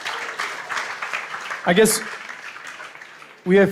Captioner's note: applause